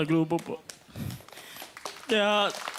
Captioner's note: applause